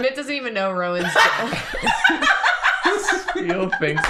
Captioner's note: sudden laughter